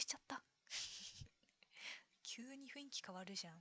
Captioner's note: laughs